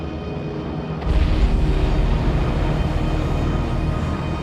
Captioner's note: rumbling explosions